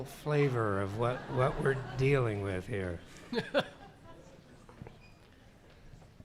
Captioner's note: laughs